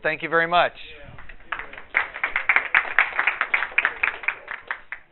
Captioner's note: audience applause